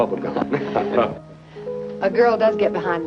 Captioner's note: chuckling